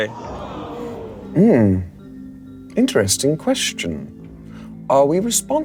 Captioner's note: audience gasping